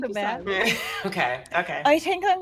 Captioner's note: chuckles